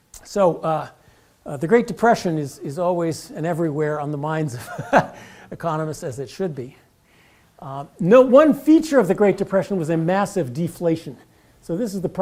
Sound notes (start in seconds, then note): 4.7 laugh